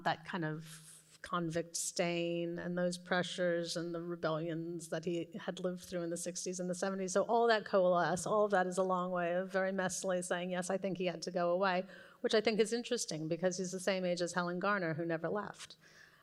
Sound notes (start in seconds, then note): none